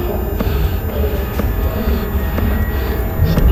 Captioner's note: voices echo and distort